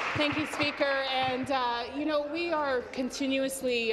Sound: applause

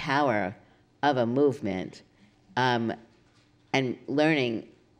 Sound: none

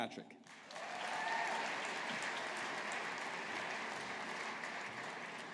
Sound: audience applauding

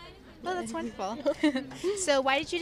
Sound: giggling

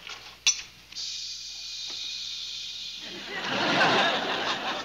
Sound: hissing

